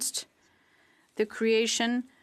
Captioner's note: speaking French